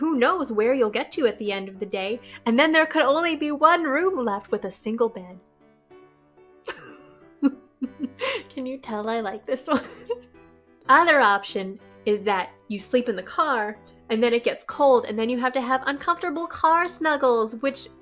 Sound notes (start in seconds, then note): 7.4 laughs